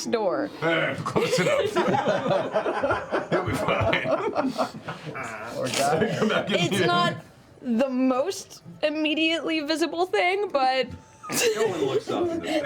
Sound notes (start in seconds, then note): 1.0 laughter